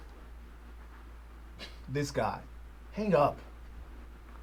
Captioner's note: scoffs